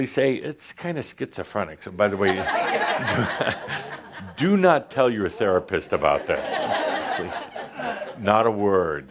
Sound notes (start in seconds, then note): 2.2 laughter; 7.4 more laughter